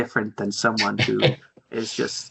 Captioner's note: laughs